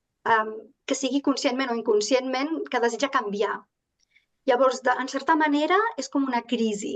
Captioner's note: continues speaking in Catalan